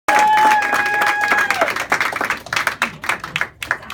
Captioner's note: audience cheering